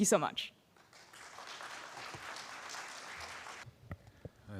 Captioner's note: applause